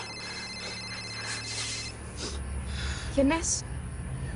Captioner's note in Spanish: Suena el celular